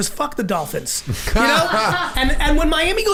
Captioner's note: laughing